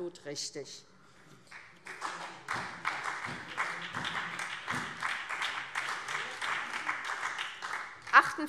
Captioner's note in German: Beifall SPD